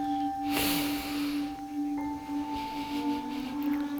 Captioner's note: inhales deeply